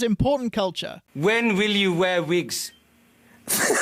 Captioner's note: explosive laugh